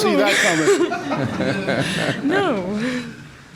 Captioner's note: crowd laughing